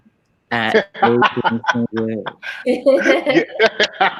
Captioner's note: laughing